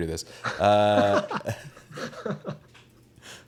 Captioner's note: laughs